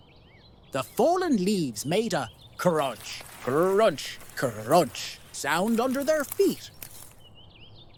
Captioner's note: leaves crunching